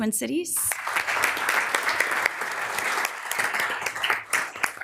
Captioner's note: members applauding